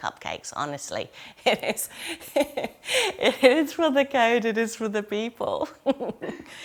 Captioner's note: laughing